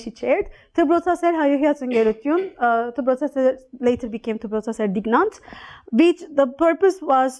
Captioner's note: non-english